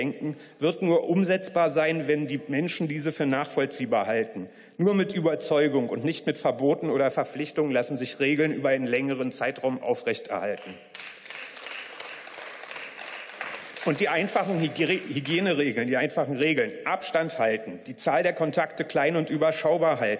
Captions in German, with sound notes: wird nur umsetzbar sein, wenn die Menschen diese für nachvollziehbar halten. Nur mit Überzeugung und nicht mit Verboten oder Verpflichtungen lassen sich Regeln über einen längeren Zeitraum aufrechterhalten. (Beifall) Und die einfachen Hygieneregeln, die einfachen Regeln, Abstand halten, die Zahl der Kontakte klein und überschaubar halten,